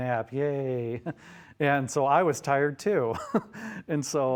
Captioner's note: chuckles